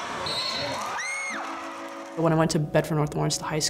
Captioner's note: crowd cheers